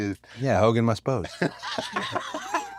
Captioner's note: laugh